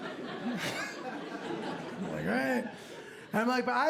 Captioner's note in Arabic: يضحك